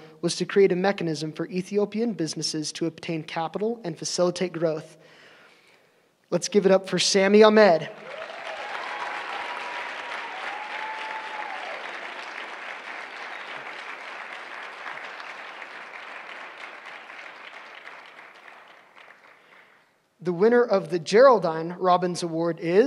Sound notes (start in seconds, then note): 7.7 applause